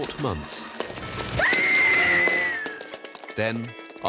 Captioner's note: woman screaming